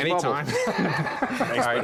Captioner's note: laughter